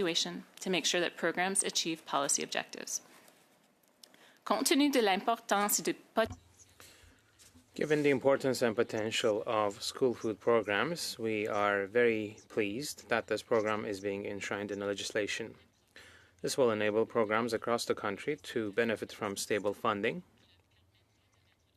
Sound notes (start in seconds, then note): 7.8 speaking French